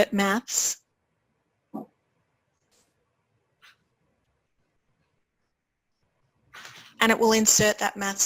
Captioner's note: pause